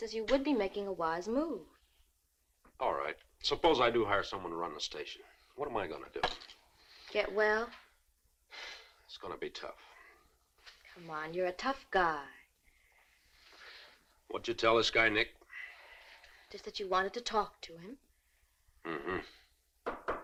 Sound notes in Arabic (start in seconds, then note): 8.9 تنهد